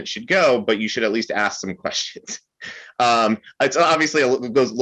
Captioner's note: chuckles